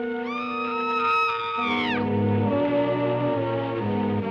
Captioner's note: screaming